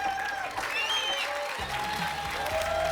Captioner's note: applause and cheering